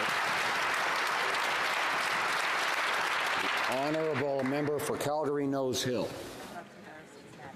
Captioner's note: some Applause